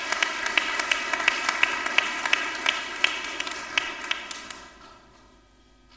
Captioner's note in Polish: oklaski